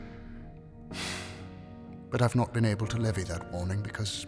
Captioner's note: sighs